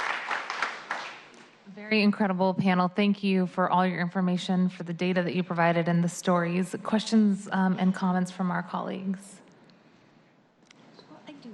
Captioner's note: applause